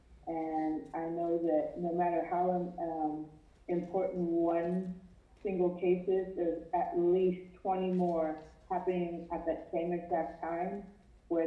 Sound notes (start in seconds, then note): none